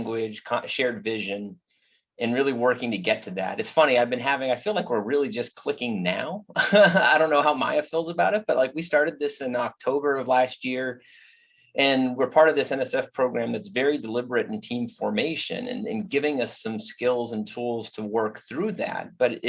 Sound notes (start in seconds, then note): 6.5 laughs